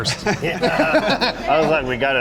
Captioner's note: all laughing